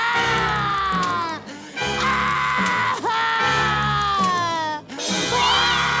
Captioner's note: crying, screaming